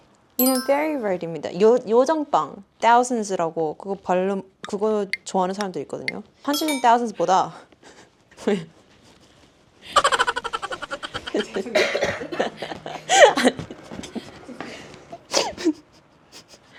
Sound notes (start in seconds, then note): 10.1 laughter spreading across the studio